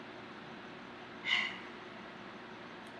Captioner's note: exhales loudly